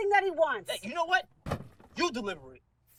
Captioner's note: box thuds